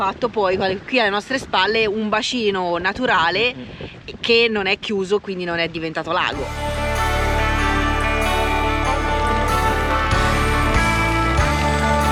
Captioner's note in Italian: Applauso